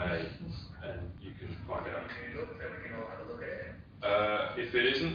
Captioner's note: audio distorts